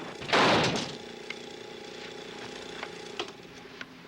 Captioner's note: bed thuds